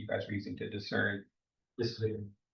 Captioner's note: speaks faintly